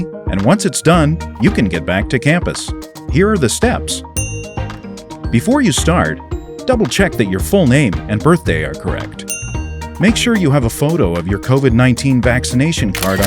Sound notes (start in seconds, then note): 4.2 bell ring; 9.3 bell ring; 12.9 camera shutter